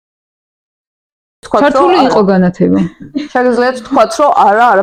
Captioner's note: giggle